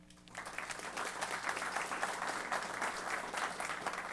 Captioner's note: applause